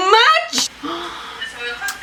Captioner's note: gasps